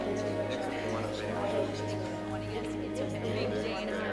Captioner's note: group chattering